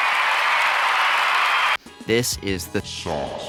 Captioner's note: cheering